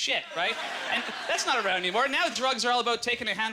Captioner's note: audience laughter